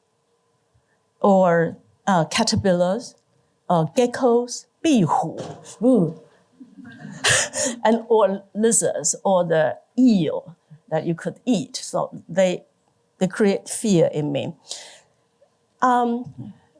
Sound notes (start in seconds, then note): 6.5 shivers